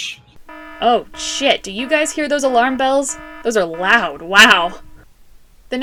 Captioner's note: alarm beeping